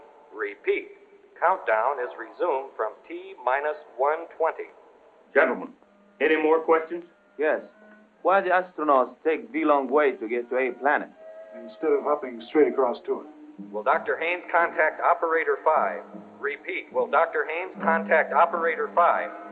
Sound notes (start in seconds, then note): 13.5 man on PA